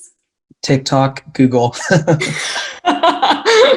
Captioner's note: laughing